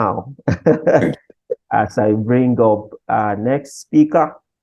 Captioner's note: laughs